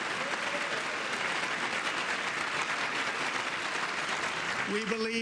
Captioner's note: applause